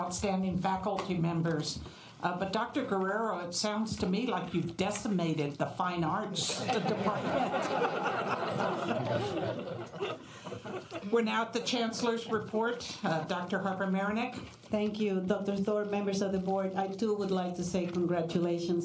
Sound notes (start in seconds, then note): 6.5 laughter